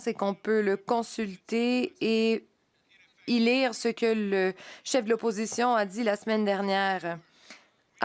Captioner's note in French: voix de l'interprète